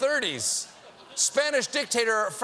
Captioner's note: laughter